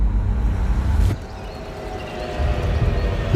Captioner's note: birdsong